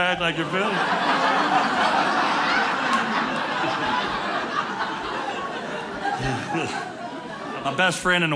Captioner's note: audience laughing